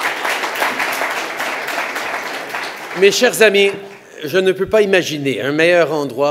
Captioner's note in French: Applaudissements